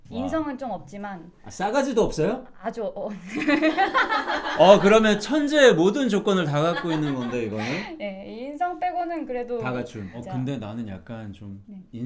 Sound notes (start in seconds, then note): 3.2 awkward laugh